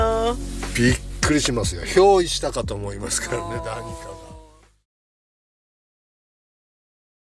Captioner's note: laughs